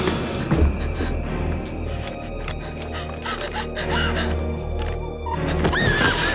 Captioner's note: gasping; panicked breathing; screams